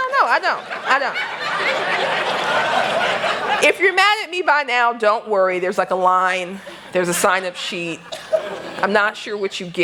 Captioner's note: laughter